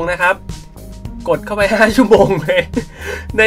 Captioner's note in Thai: ขำ